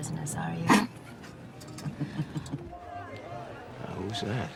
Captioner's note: Mickey laughs